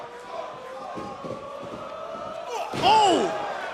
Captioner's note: fans chanting